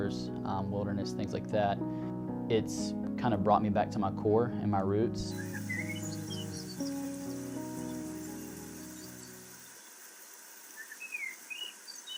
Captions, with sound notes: wilderness things like that. It's kind of brought me back to my core and my roots [birds chirping]